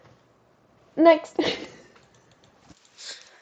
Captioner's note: laugh